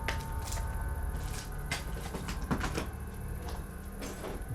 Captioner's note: footsteps tapping